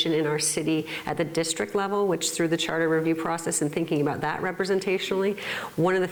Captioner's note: none